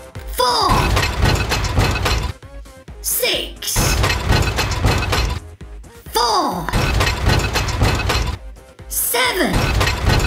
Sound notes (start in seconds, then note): 0.8 heavy mechanical gears turning; 3.8 heavy mechanical gears turning; 6.8 heavy mechanical gears turning